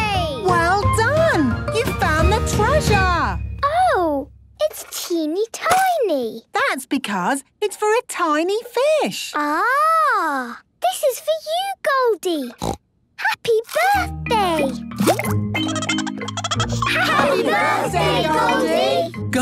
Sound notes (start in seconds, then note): 12.5 snorting; 15.6 Goldie giggling